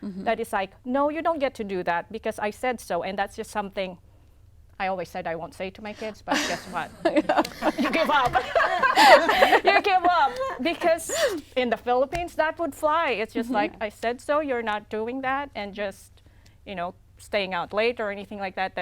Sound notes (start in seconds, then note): 9.0 laughter